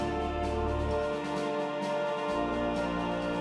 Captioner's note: none